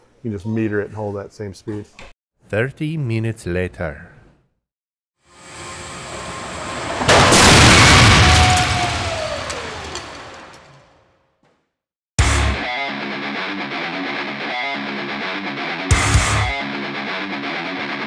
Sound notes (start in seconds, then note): 5.4 car crashes; 12.2 punk metal music